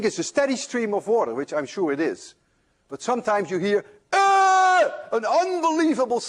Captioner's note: screams